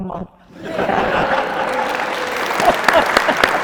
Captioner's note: audience laughing; audience applauding